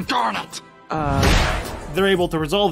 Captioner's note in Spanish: fuerte golpe